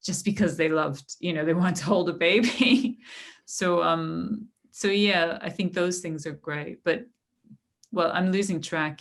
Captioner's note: laughter